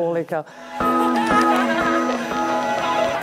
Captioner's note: laughter